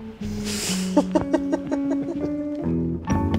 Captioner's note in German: lachen